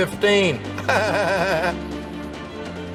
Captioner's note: laughter